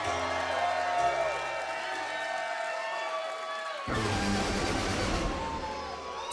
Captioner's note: cheers and applause